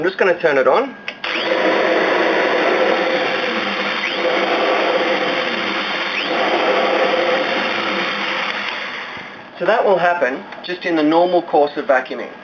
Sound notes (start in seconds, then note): 1.2 vacuum power cutting in and out